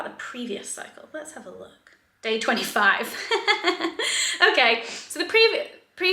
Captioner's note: laughs